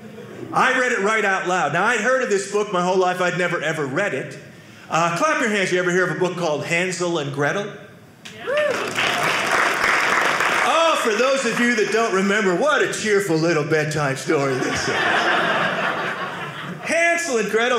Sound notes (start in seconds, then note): 8.3 audience clapping